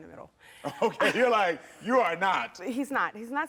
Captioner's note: chuckles